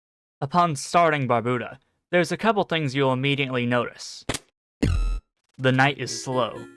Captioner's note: thud